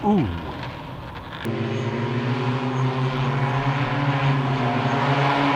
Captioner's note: aircraft whirring